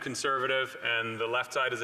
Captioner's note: speaking French